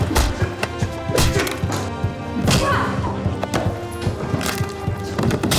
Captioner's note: grunts